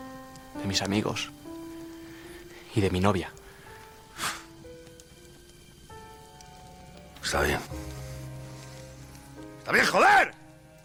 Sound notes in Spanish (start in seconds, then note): 4.0 Resoplido; 9.3 gritando